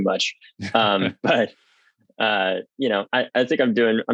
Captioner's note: laughs